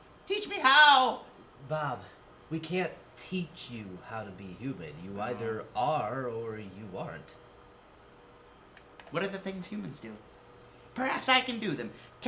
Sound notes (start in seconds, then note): none